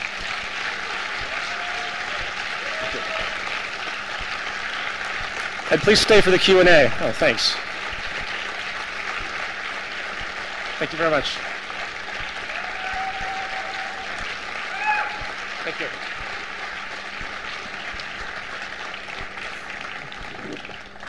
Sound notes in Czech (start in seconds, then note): 0.2 potlesk; 8.6 trvající potlesk; 13.1 trvající potlesk; 17.4 trvající potlesk